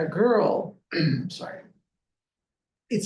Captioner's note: clears throat